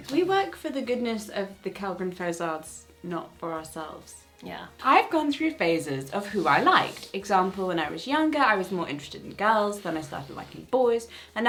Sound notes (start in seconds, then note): none